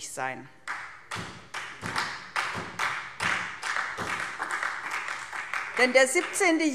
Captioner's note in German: Beifall SPD